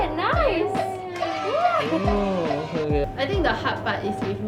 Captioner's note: sound effects